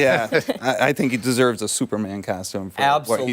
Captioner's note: laughter